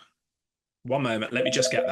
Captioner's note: phone rings